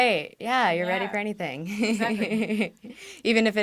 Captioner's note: laughs